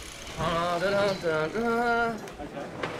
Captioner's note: humming